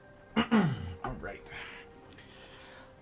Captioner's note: clears throat again